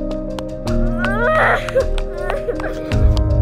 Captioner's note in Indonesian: Suara anak kecil menangis